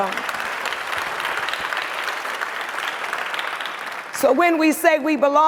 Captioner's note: audience applauds